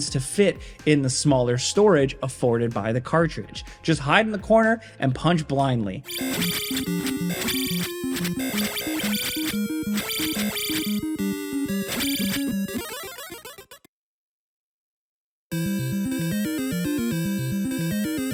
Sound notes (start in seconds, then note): 6.1 dynamic music; 6.2 attacks whooshing; 12.7 bright music; 15.6 upbeat music